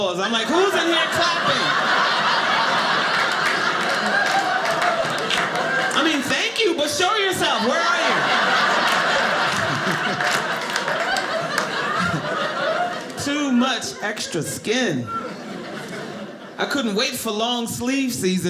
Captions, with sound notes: I'm like, who's in here clapping? (audience laughing) I mean thank you but show yourself. Where are you? (audience laughing) Too much extra skin. I couldn't wait for long sleeve season